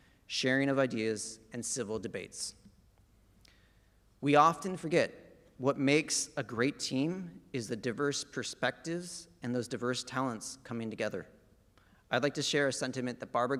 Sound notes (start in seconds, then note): none